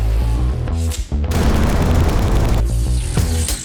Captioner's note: engine revs; explosion